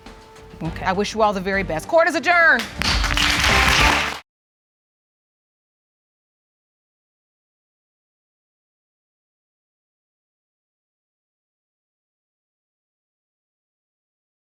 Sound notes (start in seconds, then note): 2.5 audience clapping; 2.6 gavel bangs